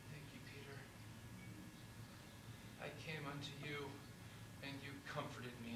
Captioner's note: none